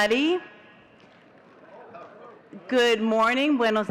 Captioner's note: audience chattering